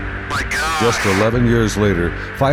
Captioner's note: voiceover